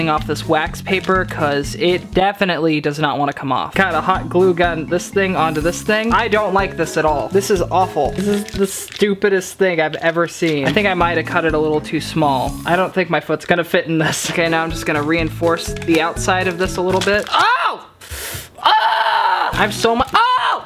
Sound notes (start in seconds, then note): 17.9 hissing